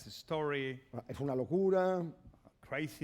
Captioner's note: speaking spanish